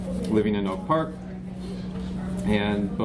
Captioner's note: background chatter